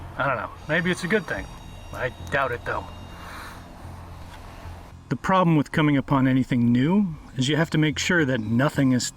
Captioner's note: sighs